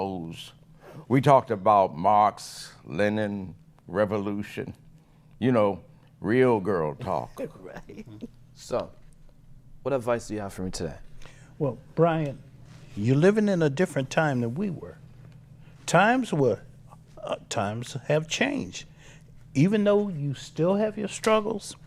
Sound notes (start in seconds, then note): 7.3 laughs